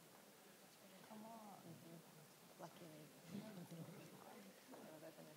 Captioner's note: people talking